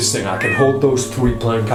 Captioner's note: cat yowling